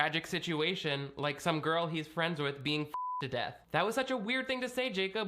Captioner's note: beep